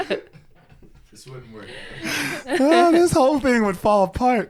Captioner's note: both laughing